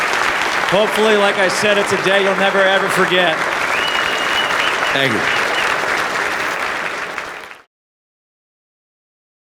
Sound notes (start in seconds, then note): 6.1 applause